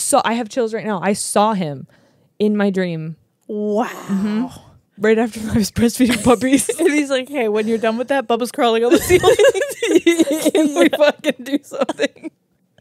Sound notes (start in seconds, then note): 8.9 laugh